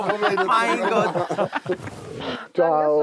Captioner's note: Sie lachen